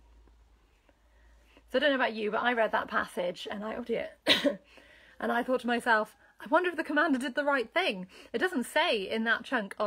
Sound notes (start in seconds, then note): 4.2 coughing